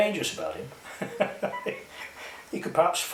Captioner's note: chuckles